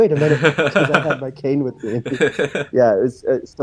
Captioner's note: laughs